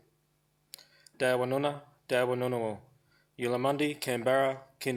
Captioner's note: speaking foreign language